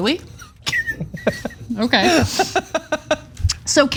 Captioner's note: laugh